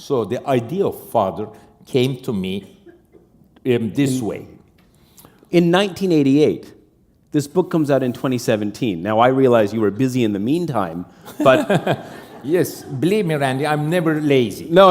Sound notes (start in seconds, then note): 10.8 chuckle